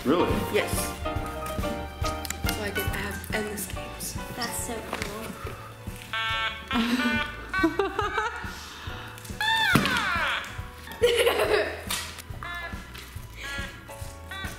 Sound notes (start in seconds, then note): 2.0 cheery music; 6.3 music notes playing; 8.2 laughing